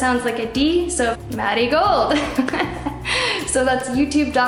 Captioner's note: laughs